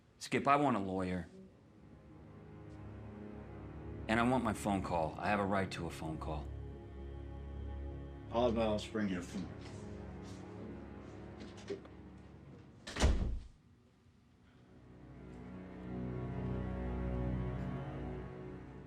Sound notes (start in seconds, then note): 12.6 door closes